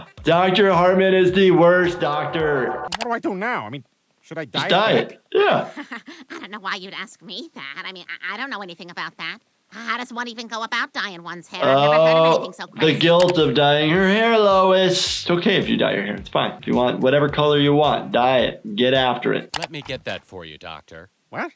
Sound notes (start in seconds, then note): 0.0 laughs; 5.4 laughs